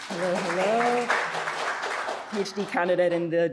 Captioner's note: audience applauding